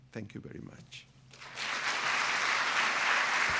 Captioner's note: applause